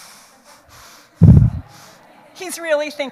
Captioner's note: audience laughs